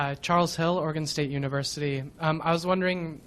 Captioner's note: voiceover